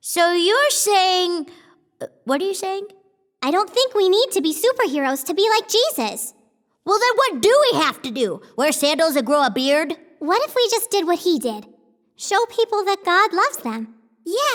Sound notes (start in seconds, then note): none